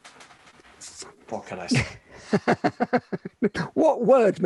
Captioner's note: laughing